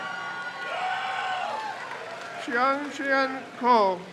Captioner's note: crowd cheers